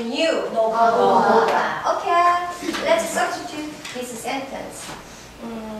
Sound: speaking foreign language

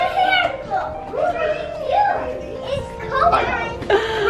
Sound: excited chatter

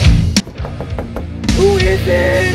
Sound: death metal music; death metal music muffled; knock knock knock knock

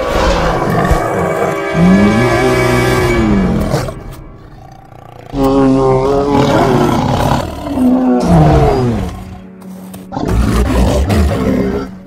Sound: Bumby growling; Saber Tooth growling disorientated

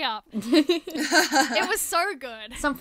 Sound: hosts laugh

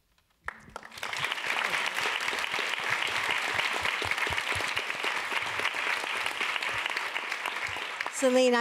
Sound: applause

